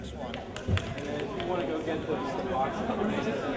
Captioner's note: clapping